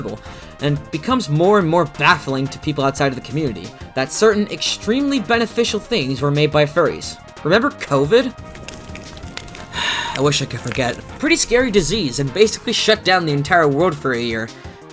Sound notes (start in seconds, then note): 8.3 dumpster fire crackling and popping; 9.7 sigh